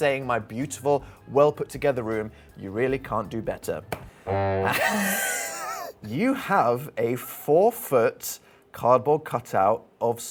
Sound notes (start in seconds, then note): 4.3 disappointed horn honking; 4.4 laughs